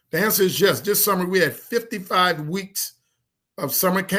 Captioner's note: none